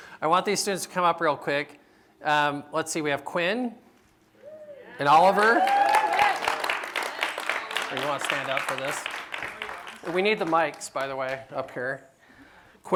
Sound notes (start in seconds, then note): 4.4 cheering; 7.2 applause